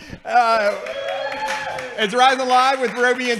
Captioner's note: cheering